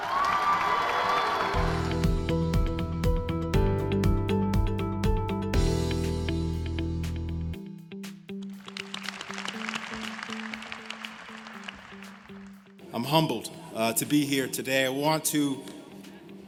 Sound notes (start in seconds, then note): 2.5 cheers and applause; 8.6 applause